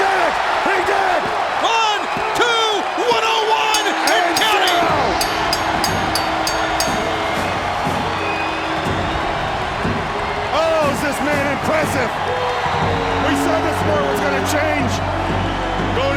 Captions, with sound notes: He did it! He did it! One, two... 101 and counting! (bell dings) (crowd cheers) Oh, is this man impressive! We saw this sport was gonna change